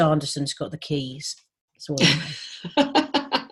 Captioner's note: laughs